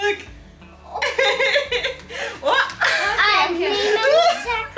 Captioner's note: laughing